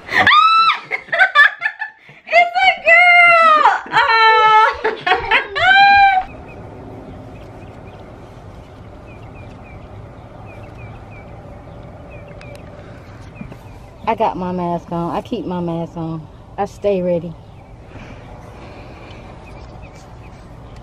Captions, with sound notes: - (screams laughing) It's a girl. (both laughing) (birds chirping) I got my mask on, I keep my mask on. I stay ready.